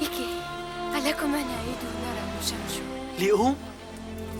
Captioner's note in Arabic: الصوت المنطوق البدوي